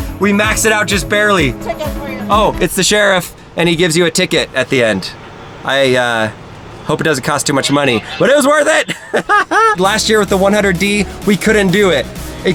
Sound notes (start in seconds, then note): 7.5 laughs